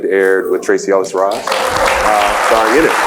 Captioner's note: applauds